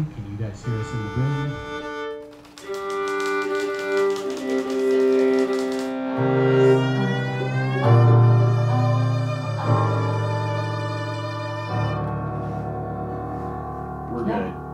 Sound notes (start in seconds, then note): 2.0 viola plays; 2.2 gear cranking